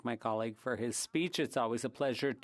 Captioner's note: speaking French